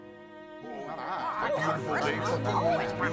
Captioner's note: squawking and clucking